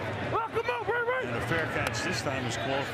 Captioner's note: onfield chatter